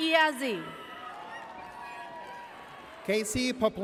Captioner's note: audience cheers